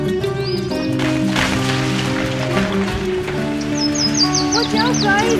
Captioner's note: birds chirping; rocks clattering